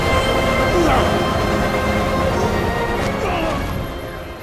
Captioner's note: grunting